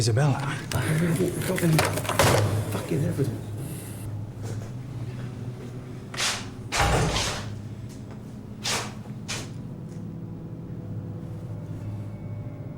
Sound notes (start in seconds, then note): 6.7 metal clangs; 9.3 light dramatic music